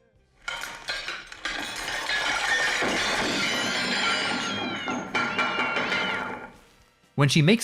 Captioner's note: clatter of colliding and breaking objects